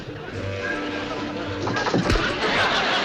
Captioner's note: wood splintering